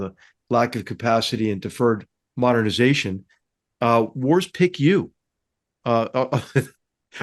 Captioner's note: laugh